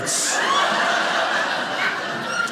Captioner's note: audience laughing